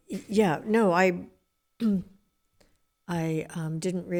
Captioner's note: clears throat